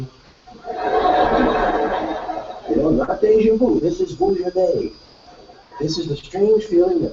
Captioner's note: laugh